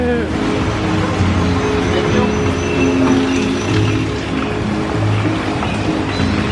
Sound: upbeat music continues; water splashing continues

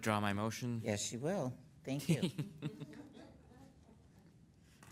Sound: laughing

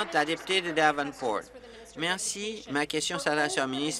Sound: applause

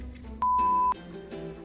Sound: beep

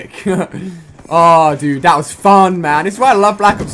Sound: laugh

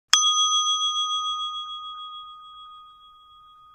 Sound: gently chiming bell

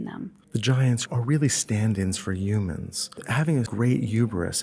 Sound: voiceover

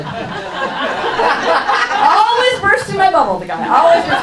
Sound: audience laughs

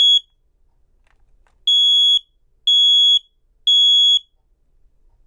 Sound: alarm beeps

